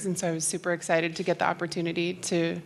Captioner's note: none